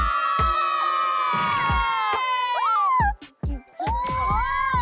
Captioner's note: cheering